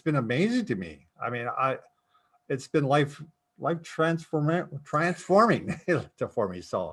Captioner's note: chuckles